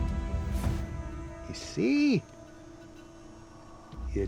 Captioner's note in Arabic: لهجة اسكتلندية